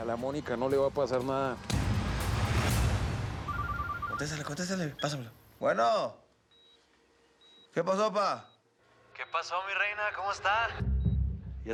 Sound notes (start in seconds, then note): 3.4 Suena el celular